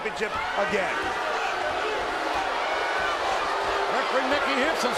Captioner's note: audience jeers